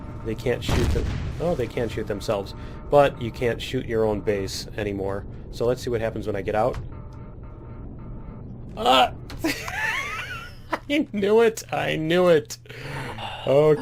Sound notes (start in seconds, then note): 0.0 turret firing; 0.6 explosion; 9.4 laughs